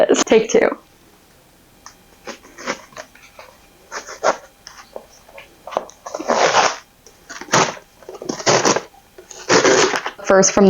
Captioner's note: struggling resumes